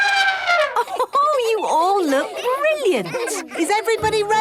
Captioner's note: trumpeting; Mummy Pig laughing